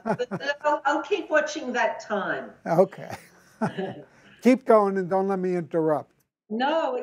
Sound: chuckles

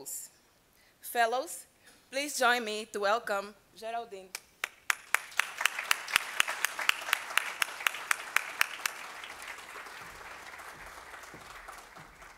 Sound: applause

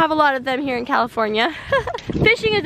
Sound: laughs

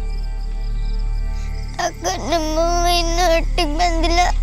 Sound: sobbing

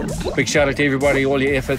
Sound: bubbles

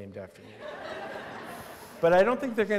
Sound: laughter

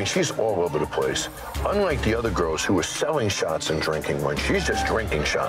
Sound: none

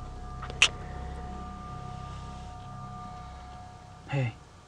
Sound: Curtis smooches

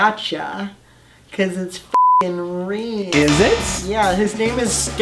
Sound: none

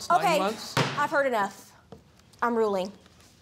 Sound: pounds gavel

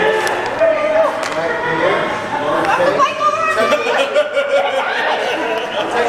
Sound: laughs

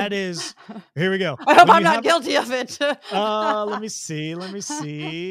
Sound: laugh

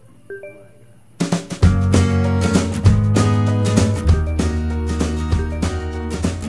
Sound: notification sound

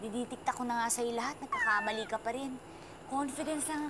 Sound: meows

